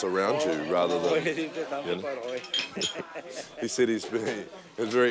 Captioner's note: speaking in Italian